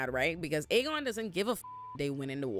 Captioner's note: beep